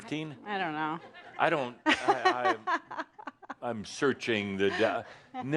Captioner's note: she chuckles